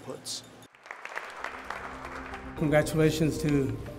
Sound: applause

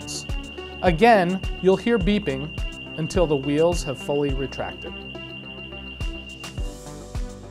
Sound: rapid beeping

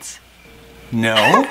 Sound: crickets chirping

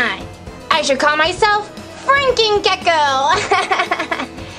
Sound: laughs

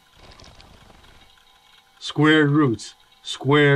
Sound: leaves softly rustle

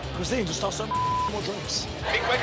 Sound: beep

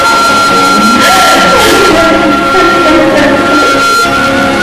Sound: crying

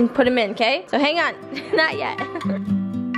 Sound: laughs; charming folk music

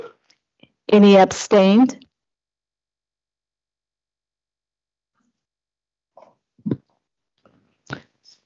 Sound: silence

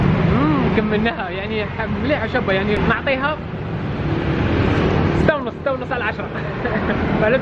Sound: giggles

